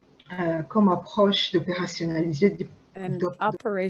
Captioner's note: speaking french